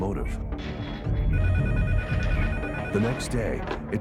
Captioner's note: phone ringing